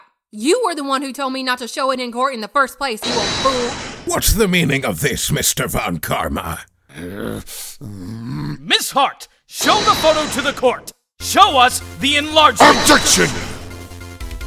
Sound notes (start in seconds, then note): 6.9 growling